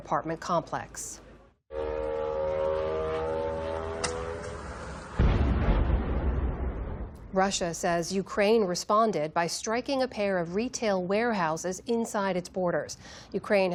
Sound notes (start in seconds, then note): 6.6 explosion